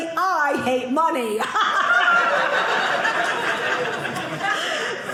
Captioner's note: audience laughing